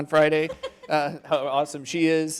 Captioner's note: female laughing